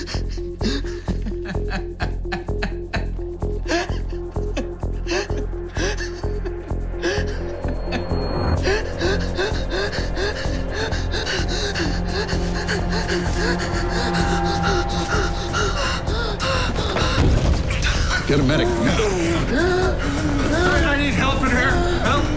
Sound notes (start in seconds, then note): 9.0 hyperventilating; 18.6 wheezing